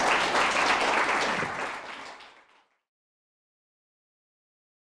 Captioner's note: applause